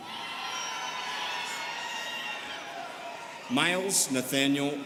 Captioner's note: students cheering